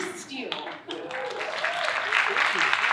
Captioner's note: audience cheering and applauding